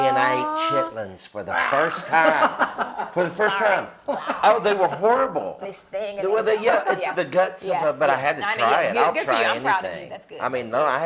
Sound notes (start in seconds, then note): 1.6 gags; 2.0 laughter